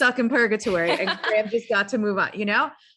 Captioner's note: laughs